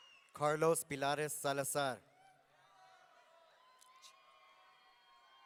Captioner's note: audience cheering